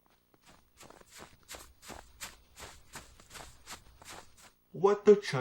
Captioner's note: snowy footsteps